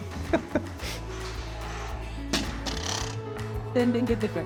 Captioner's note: chuckling